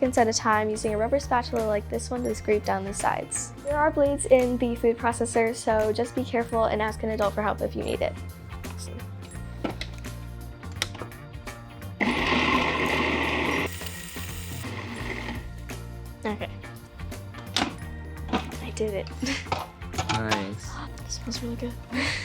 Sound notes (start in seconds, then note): 12.0 starts up food processor